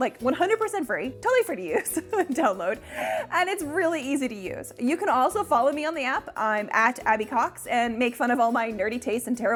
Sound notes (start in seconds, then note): 2.2 giggles